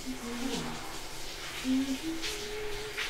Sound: humming

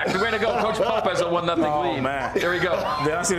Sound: laughter

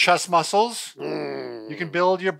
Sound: groaning

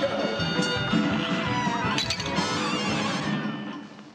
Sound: goofy ahh sound effects

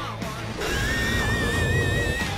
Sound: high-pitched shrieking

